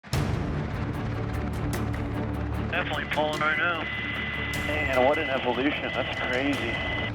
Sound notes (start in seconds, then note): 0.0 intense music; 2.9 man On Radio